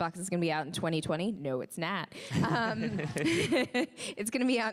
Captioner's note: laughs